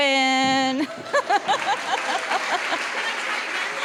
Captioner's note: laughing; applause